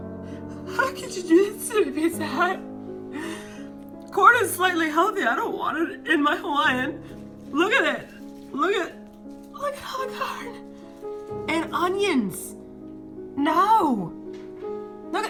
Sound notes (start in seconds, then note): 0.3 sobbing